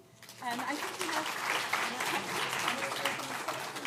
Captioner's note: applause